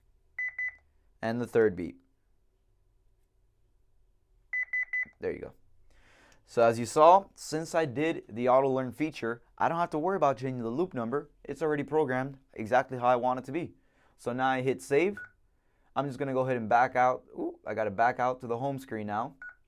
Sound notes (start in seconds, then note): 0.4 beep beep; 4.5 beep beep beep